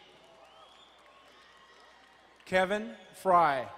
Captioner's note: crowd cheering and applauding